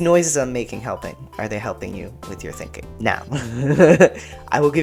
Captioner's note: laugh